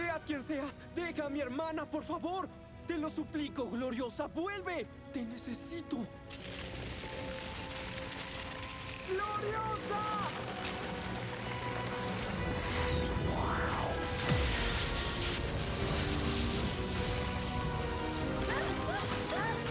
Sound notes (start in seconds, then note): 14.0 zap